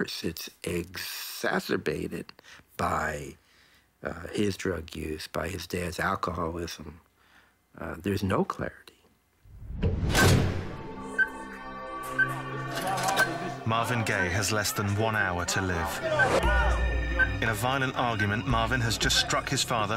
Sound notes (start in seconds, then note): 12.0 beeping